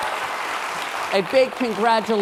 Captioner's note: applause